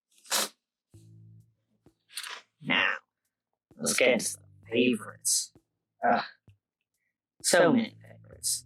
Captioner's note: page turning; sniff